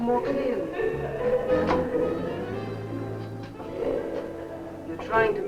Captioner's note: Vi laughing; dramatic music